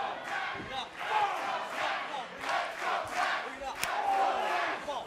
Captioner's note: fans chanting